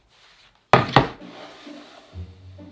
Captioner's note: board sliding